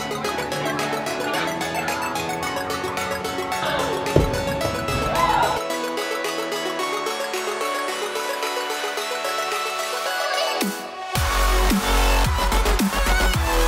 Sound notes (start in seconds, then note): 0.0 students chattering; 4.1 feet thumping; 4.2 students cheering; 4.9 students shouting